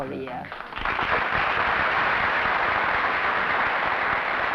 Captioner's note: applause